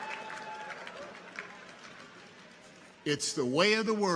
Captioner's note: people cheer